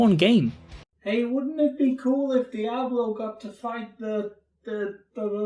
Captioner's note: shouted across the room